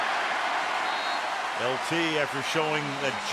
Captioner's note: cheering